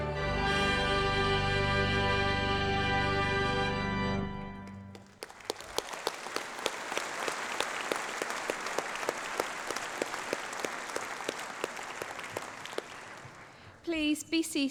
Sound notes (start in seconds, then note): 4.6 applause